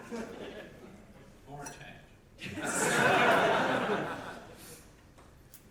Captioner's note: audience laughter